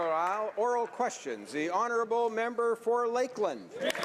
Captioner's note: some Applause